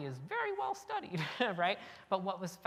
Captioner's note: chuckle